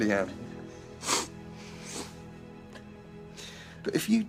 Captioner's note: sniffles